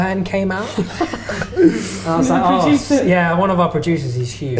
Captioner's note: laughter